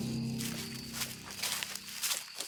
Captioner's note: crickets